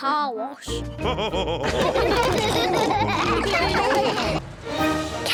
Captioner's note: all laughing